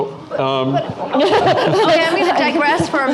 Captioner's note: laughing